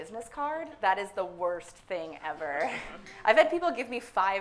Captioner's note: suppressed laughter